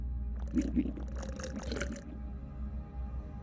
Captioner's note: sipping